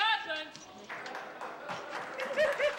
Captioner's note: applause